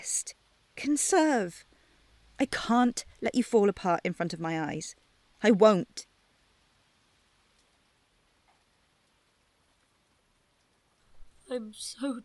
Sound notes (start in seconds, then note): 6.1 silence